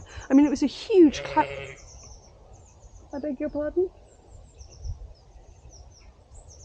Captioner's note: sheep bleats